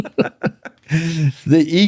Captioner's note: laughter